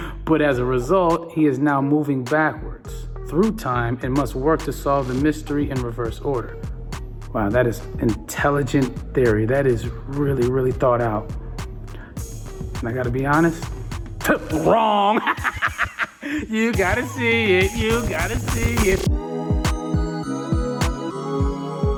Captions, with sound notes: But as a result, he is now moving backwards through time and must work to solve the mystery in reverse order. That is intelligent theory, That is really thought out. And I gotta be honest, dead wrong (laughs). You gotta see it. You gotta see it (upbeat music)